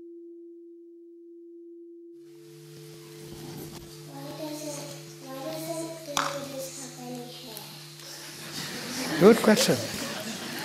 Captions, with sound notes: Why don't Buddhists have any hair? (Laughter) Good question!